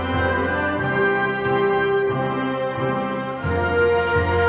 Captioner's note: none